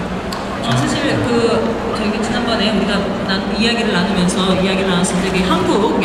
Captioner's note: speaking Korean